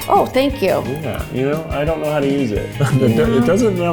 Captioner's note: laughs